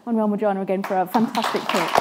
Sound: speaking foreign language

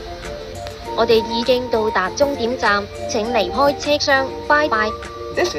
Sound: Cantonese

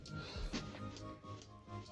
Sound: whispering

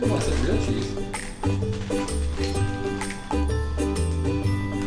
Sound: voiceover

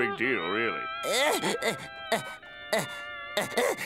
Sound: grunting

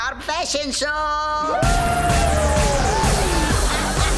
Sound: cheering; laughing

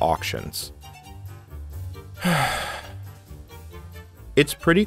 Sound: very deep sigh

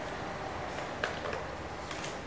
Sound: phone clatters

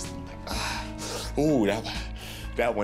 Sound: exhaling uncomfortably

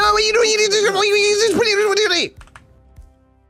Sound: speaks gibberish

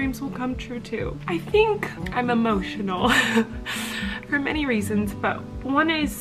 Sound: laughing

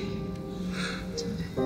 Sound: exhales

